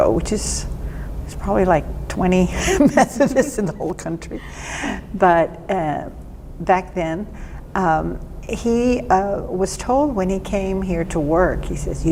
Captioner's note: laughing